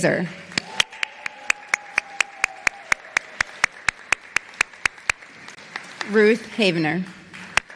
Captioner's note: applause